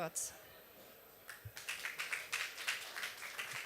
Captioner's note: applause